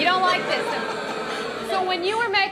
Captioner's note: booing